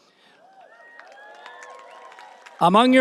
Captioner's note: audience applauding and cheering